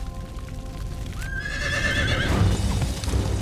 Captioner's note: horse neighing